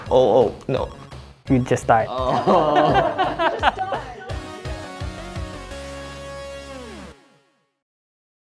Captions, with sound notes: Oh, oh. No. - We just died. (laughing) (upbeat music)